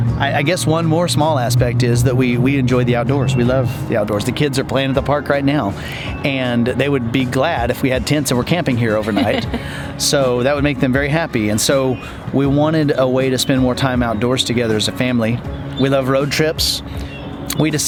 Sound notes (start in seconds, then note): 9.0 laughs